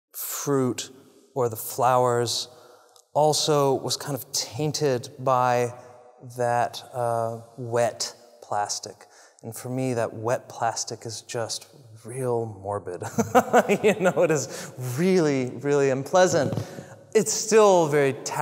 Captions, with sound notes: fruit or the flowers also was kind of tainted by. That wet plastic. And for me that wet plastic is just real morbid. [LAUGH] You know, it is really, really unpleasant. It's still very tactile. It's still very,